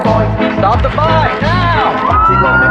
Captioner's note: sirens aring